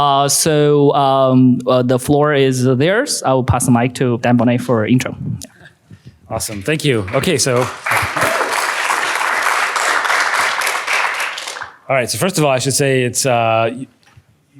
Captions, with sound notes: So the floor is theirs. I will pass the mic to Dan Boneh for an intro. Awesome. Thank you. OK, so-- [APPLAUSE] All right. So first of all, I should say it's--